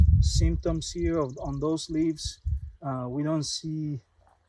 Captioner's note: birds chirping